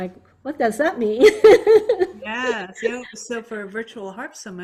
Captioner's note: laughs